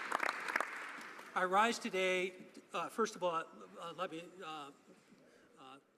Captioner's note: some Applause